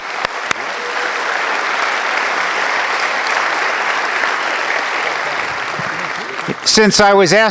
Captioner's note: applause